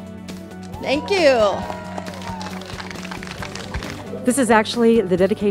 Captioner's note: crowd claps